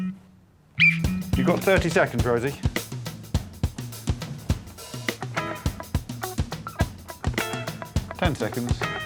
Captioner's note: blows whistle